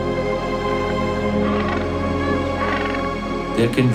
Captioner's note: penguin quacking